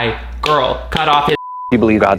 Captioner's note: beep